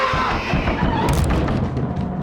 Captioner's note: wood splintering